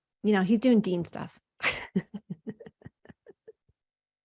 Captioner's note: chuckles